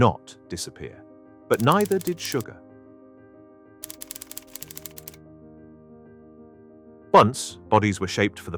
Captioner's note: gentle music; typewriter clacking